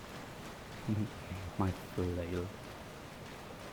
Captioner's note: chuckles